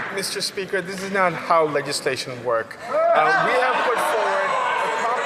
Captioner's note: some Applause